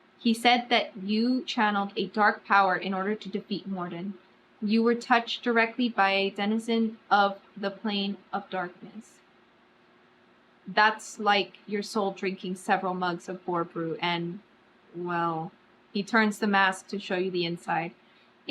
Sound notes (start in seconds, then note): none